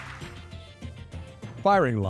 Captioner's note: audience clapping